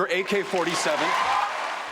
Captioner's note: cheering and applause